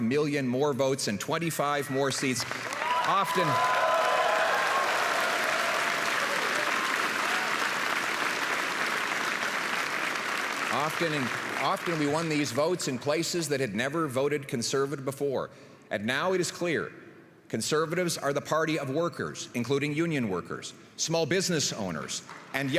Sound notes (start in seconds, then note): 7.0 applause and cheering